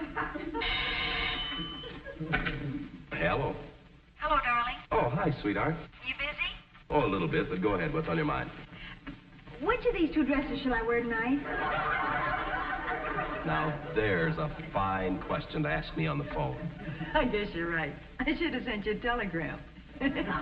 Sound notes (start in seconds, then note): 2.5 telephone ringing; 13.4 audience laughing; 19.9 chuckles